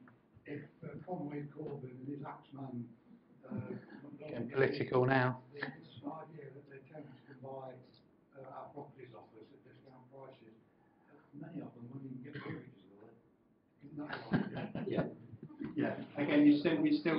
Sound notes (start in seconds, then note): 14.0 laughing